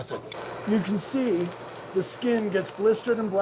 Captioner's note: chili sizzling